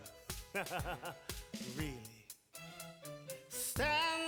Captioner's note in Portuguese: laughs